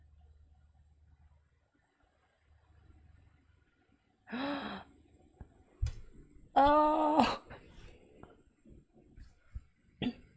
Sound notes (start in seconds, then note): 4.3 gasps